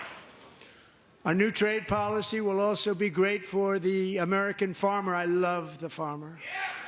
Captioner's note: applause